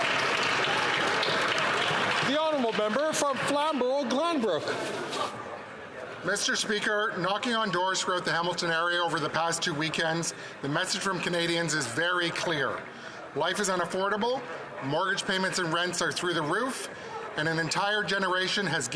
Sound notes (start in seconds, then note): 2.9 some Applause